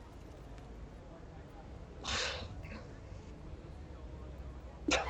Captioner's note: robin starts to cry quietly